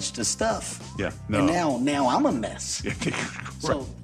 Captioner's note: laughs